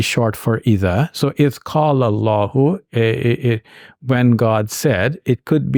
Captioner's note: speaking in Arabic